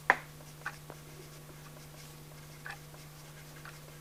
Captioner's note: pencil scratches